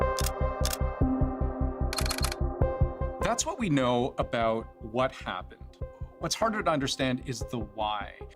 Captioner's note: camera shutter